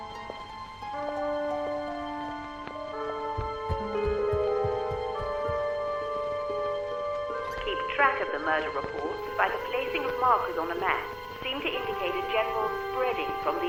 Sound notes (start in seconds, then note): 7.7 radio Announcer